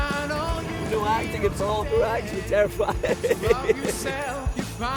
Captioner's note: loud engine noise